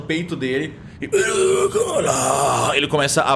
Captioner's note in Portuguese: Grunhido